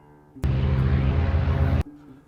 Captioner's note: engine roaring